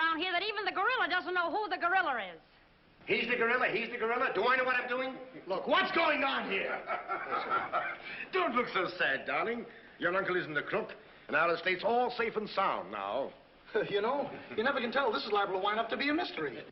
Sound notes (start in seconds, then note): 6.2 laughs